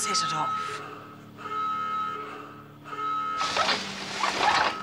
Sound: alarm blaring

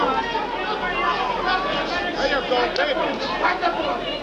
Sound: crowd chattering

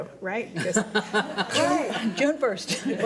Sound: laughing

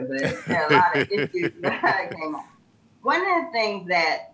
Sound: laughs

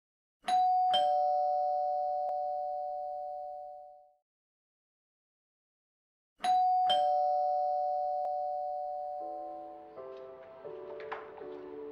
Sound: bell rings

